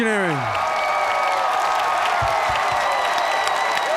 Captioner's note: cheers and applause